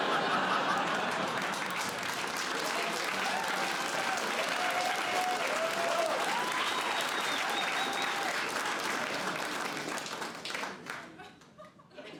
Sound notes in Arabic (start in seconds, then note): 0.2 ضحك; 3.3 هتاف وتصفيق